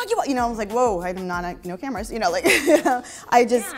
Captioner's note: laughs